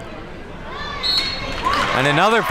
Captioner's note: whistle blows